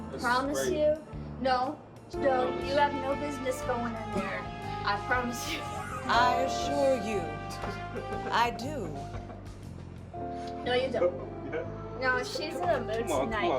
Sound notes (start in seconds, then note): 5.4 laughs; 7.7 drunken man laughing; 11.6 laughs